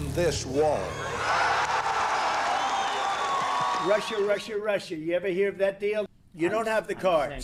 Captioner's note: cheers and Applause